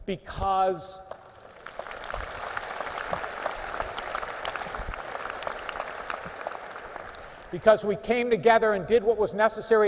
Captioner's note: applause